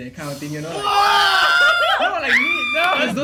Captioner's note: editor apologises for including scary screech